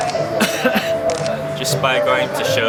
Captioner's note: coughing